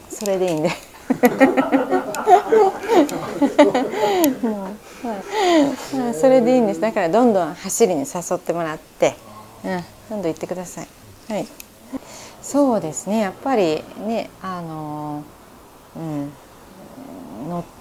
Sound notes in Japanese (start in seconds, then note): 0.6 笑い声